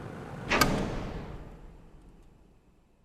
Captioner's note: a/c clicks off smoothly